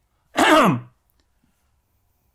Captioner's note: clears throat